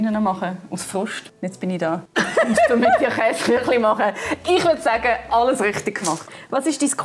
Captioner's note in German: lacht